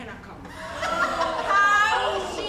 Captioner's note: group laughs